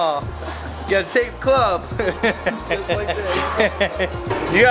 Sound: laughter

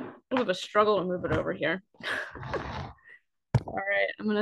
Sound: chuckles

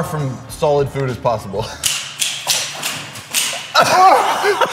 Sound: mouse traps going off in the background; laughing

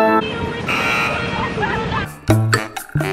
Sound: buzzer honks; comical music

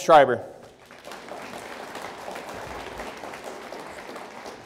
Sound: audience applauds

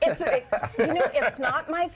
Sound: laughter

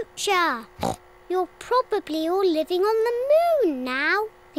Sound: oinks

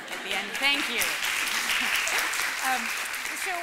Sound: applause

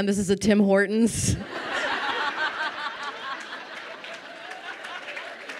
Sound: crowd laughing and applauding

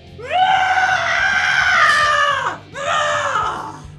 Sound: none

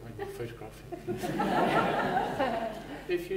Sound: laughter

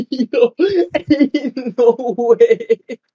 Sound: laughter

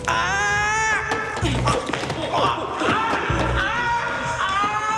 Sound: screaming

